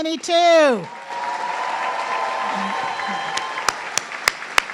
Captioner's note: everyone cheering